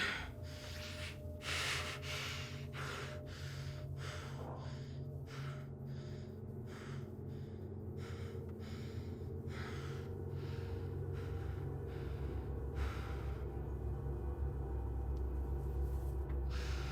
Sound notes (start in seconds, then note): 9.4 Jordyn continues panting; 14.4 tense music